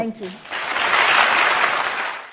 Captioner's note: audience applauding